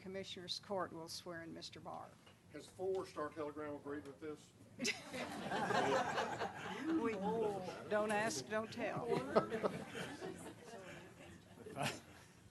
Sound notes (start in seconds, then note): 4.8 laughter